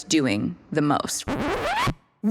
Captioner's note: record scratching